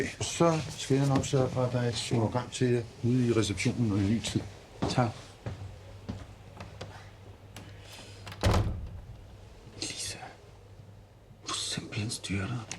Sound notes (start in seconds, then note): 7.5 door open; 7.6 door closed